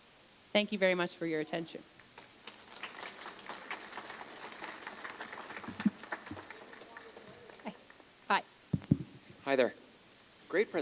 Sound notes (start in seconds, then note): 2.2 applause